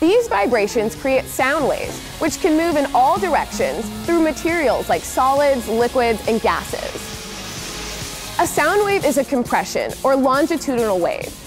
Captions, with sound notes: These vibrations create sound waves, which can move in all directions, through materials like solids, liquids, and gases. [jet engines rumbling] A sound wave is a compression, or longitudinal, wave